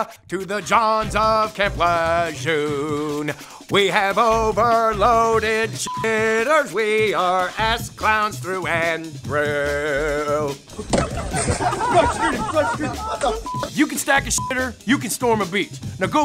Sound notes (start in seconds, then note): 5.8 beeps; 10.7 laughing; 13.2 beeps